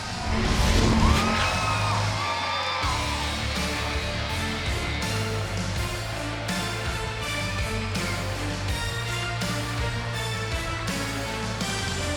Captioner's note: cheers and applause